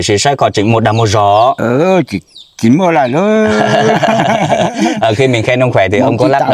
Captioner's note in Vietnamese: tiếng cười